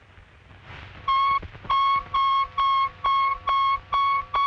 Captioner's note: steady beeping